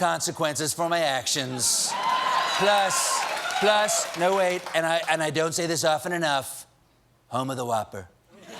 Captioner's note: cheers and applause